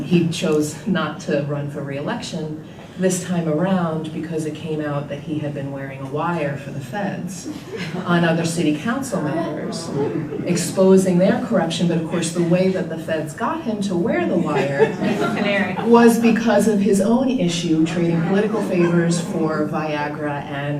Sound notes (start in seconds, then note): 14.1 group laughter